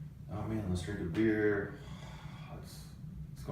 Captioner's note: sighs